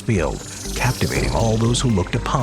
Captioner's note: UFO whirring